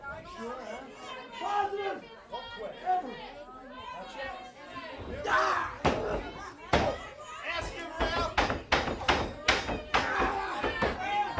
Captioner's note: crowd cheers